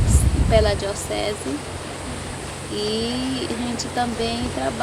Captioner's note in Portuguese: ruídos de ambiente exterior